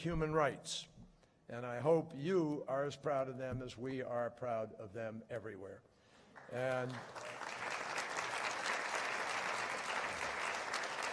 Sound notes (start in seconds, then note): 6.3 applause